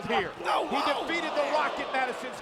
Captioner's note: crowd exclaiming; John Cena bellowing